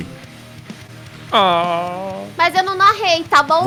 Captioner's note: cries